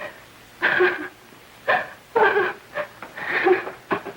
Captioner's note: sobbing